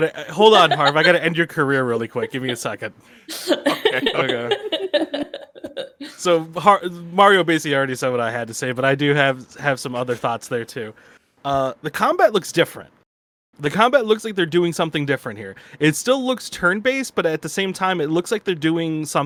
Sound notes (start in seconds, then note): 3.3 continues to laugh; 4.9 chuckles